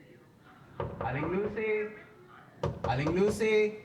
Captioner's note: knocking on door